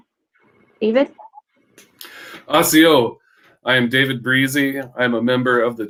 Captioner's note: speaking Cherokee